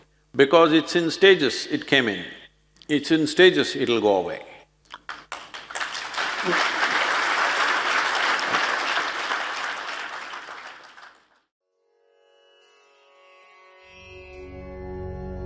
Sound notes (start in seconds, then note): 5.0 applause